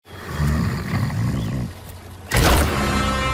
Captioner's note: snoring